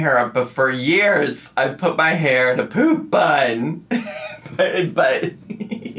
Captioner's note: laughs